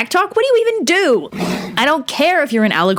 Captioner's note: horse noise